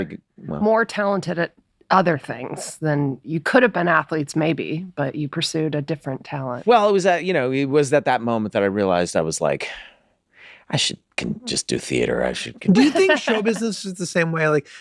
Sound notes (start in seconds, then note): 12.7 laughing